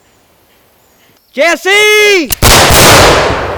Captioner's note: gunshots firing